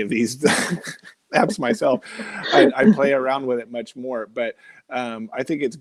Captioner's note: laughing